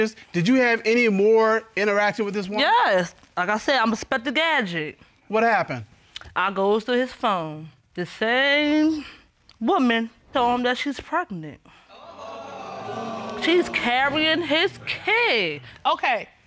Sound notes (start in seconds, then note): 11.9 audience exclaiming